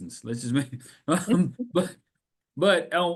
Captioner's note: laughs